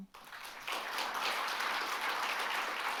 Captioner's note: applause